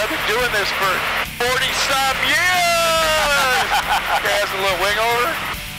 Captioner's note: laughs